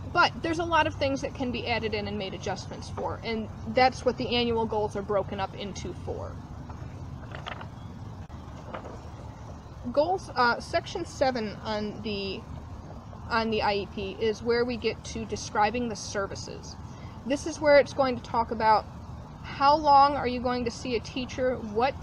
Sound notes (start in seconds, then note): 6.6 rustling of papers